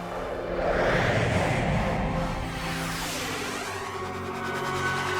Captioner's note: whooshing